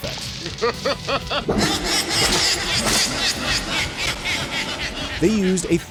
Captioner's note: laugh